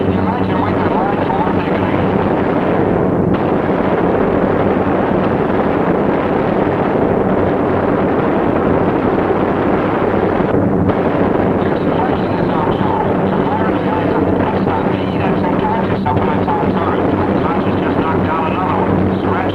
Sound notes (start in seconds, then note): 3.3 gunfire sounding